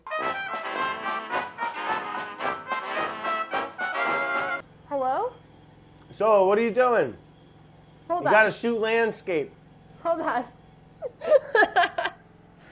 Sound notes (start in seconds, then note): 0.0 upbeat music; 11.0 laughing